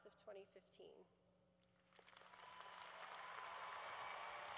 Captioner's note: cheering